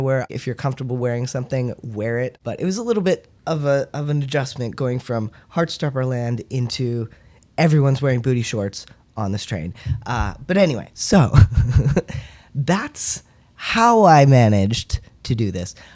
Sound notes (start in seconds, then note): 11.3 laugh